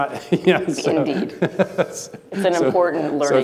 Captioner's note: laughing